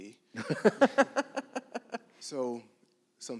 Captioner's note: laughs